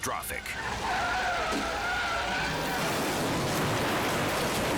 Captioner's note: tires screeching; suspenseful music; car crashing